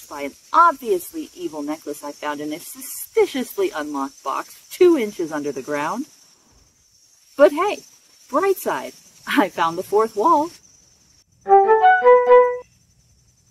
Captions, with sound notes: by an OBVIOUSLY evil necklace I found in a SUSPICIOUSLY unlocked box 2 inches under the ground. But, hey! Brightside: I found the 4th wall (chirpy bug chirps)